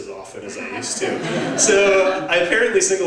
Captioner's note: laugh